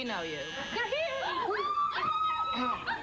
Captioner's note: doorbell buzzes